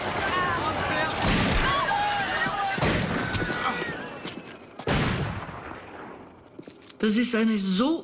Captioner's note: gunshots, crowd noise